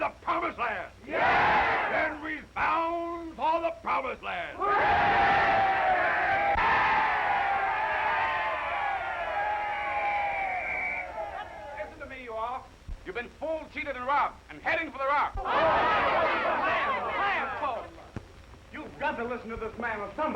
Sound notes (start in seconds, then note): 4.6 crowd cheering; 9.6 whistle blowing; 15.1 all shouting